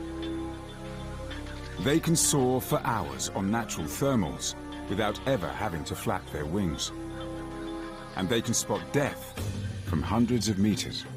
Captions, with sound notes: And they can spot death from hundreds of meters up in the air. (intense music) (vultures cawing)